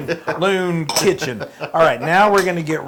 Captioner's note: laugh